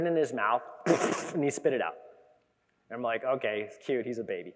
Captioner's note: imitates spitting